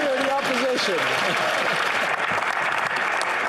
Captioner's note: speaking French